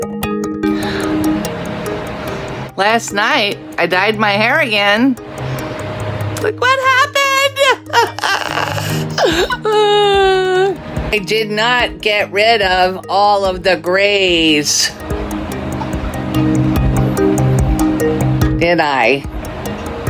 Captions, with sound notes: last night I dyed my hair again look what happened (laughing and cryng simultaniously) (sighs) I did not get rid of all of the grays did i?